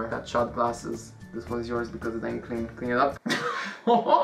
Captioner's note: heh